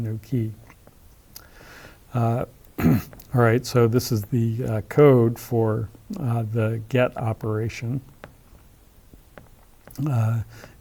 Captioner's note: cough